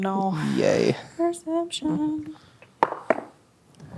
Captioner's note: sarcastically; singsong; dice rolling